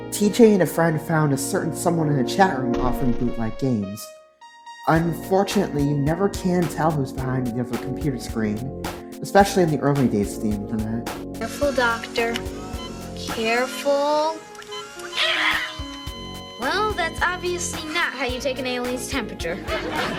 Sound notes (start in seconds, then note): 15.2 ayy lmao death cry; 15.9 flatline SFX